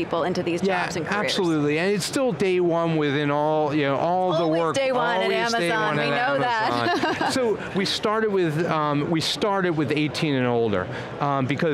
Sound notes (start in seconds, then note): 6.7 laughs